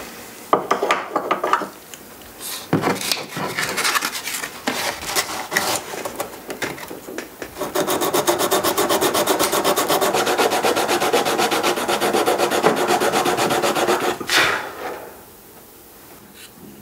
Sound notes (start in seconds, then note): 14.0 he blows